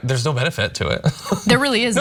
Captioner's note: laugh